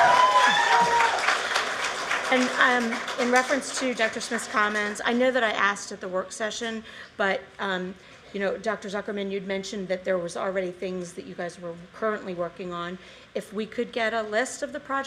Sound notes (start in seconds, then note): 3.9 cheers and applause